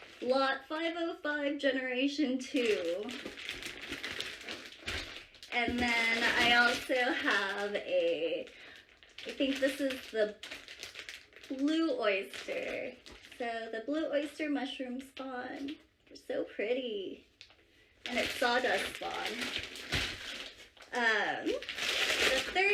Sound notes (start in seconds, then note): 3.0 shuffling and box noises